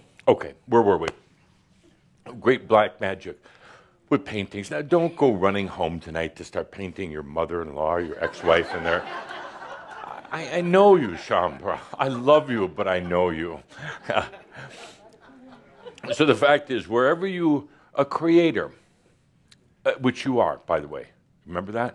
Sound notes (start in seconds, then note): 8.0 laughter; 13.8 chuckles